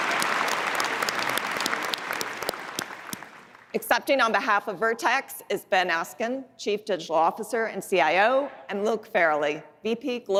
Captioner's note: applause